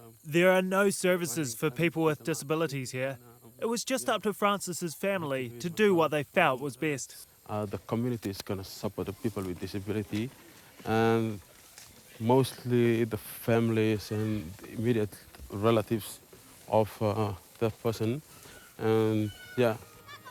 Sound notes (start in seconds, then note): none